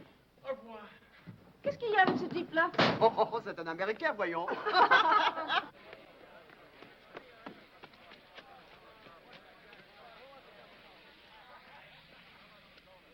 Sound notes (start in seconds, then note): 0.6 speaking foreign language; 4.4 women laughing